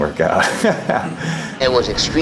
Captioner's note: laughing